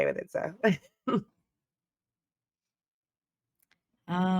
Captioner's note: chuckling